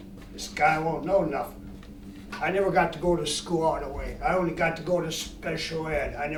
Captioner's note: none